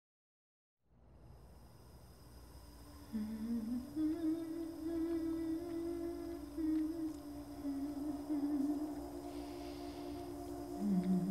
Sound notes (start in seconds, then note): 4.0 gas range hissing; 4.0 humming